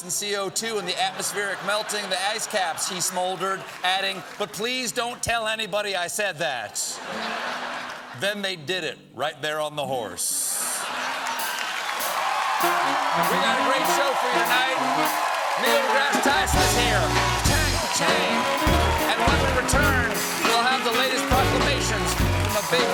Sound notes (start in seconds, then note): 10.0 applause; 10.6 laughter